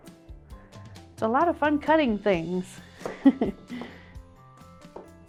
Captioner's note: laughs